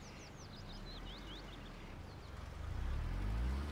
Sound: bird chirping

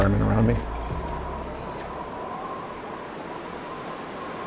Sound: wind blowing

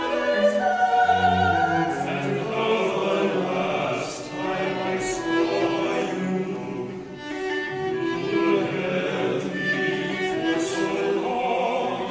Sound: lower voices

